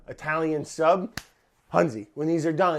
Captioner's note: claps